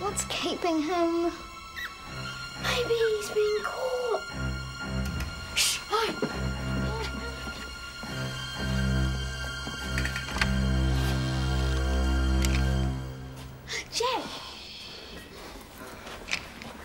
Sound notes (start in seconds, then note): 5.0 door clicks